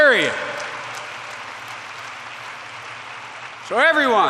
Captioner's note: applause